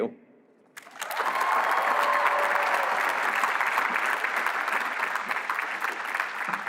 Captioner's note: applause